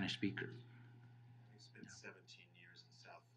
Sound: laughing

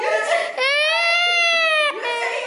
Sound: still crying

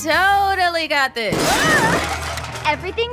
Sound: objects crash

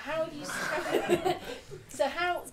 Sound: audience laughing

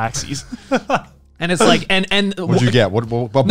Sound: laughing

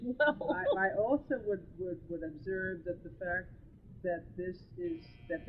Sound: laughs

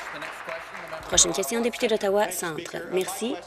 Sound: applause

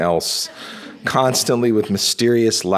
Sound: audience laughing

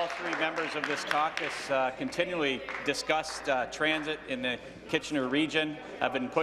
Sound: applause

